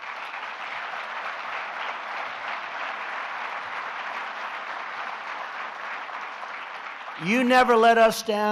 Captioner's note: applause